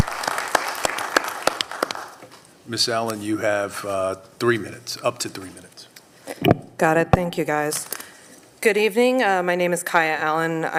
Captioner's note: applause